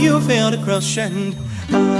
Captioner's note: high pitched ringing